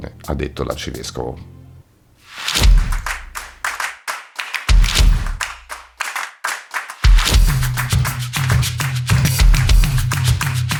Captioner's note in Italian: Applauso